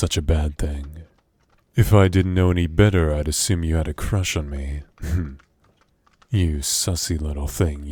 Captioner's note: laugh